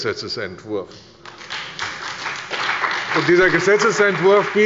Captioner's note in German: Beifall bei der CDU und dem BÜNDNIS 90/DIE GRÜNEN